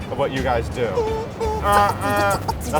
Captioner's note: beatboxing